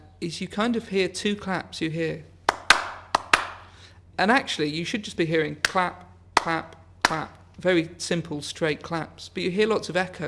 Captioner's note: claps